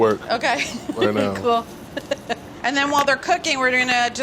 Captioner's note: laughs